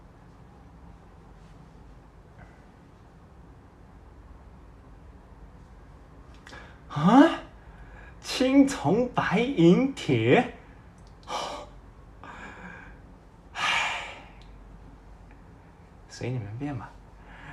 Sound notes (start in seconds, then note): 2.5 siGh